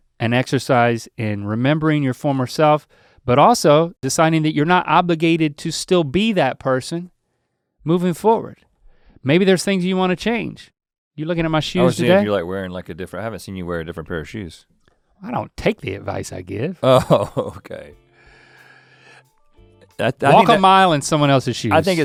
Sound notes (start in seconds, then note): 16.8 Rhett chuckles; 19.5 upbeat music